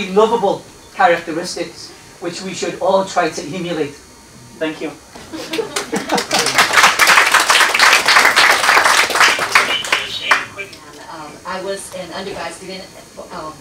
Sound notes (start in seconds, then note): 5.5 applause